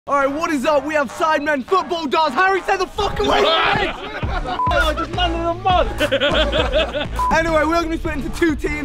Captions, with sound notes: - All right what is up? We have Sidemen football darts Harry stay the fuck away from me! (laughter) He's down in the mud! (laughter) Anyway, we are gonna be split into two teams